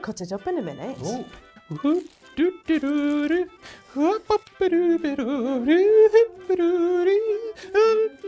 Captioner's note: hums "I like the</b> <b>flowers"